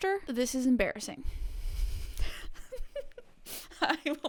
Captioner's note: laughs